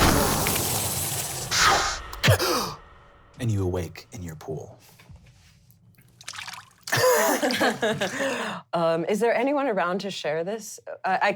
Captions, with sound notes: (inhaling) (gasping) And you awake, in your pool. (water splashing) (laughing) - Is there anyone around to share this?